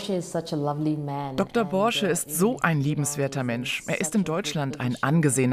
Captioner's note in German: englisch